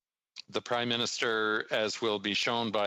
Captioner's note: speaking French